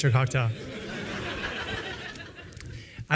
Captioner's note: laughter